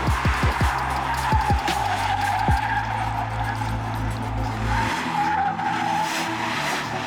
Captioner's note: dramatic music; tires squealing